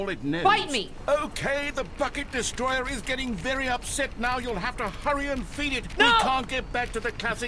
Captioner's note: machine getting louder, fiddling with the door